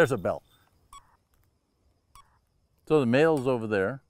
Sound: device beeps

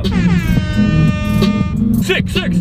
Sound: ham horn

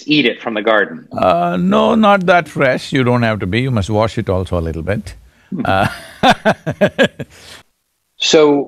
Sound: laughs

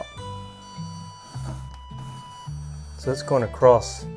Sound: beep

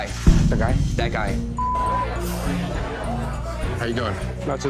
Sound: beep

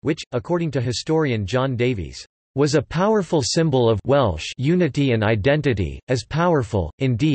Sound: Welsh

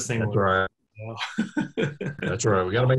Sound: laughing

